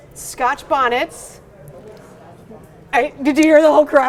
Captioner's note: crowd